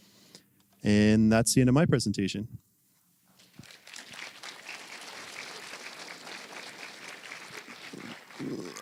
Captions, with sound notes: And that's the end of my presentation. (applause)